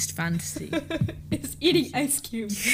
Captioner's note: laughs; giggles